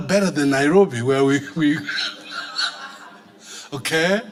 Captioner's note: laughing; audience laughing